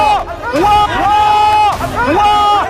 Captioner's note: screaming